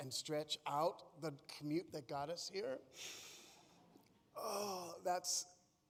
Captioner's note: breathes deeply